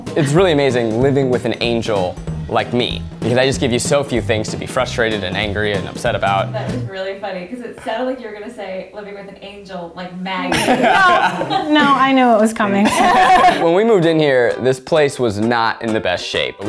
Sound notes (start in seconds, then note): 10.5 laughing; 13.1 laughing